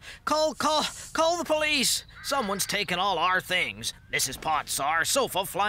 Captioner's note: none